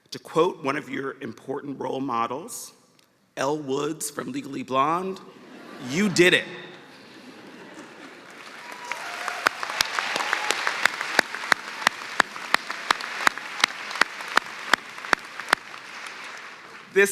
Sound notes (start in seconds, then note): 8.5 laughter; 10.6 cheers and applause